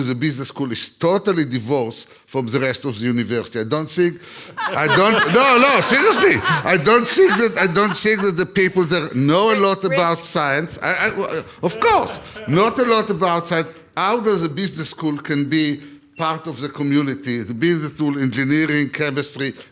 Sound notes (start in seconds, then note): 4.3 laugh